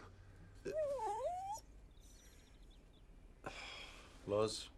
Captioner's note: dog whines